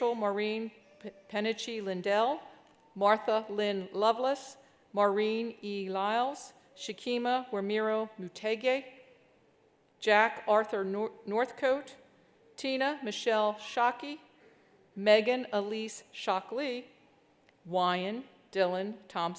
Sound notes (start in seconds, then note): none